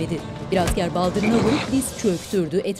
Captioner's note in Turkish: Tekme sesi